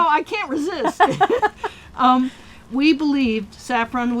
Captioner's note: laughing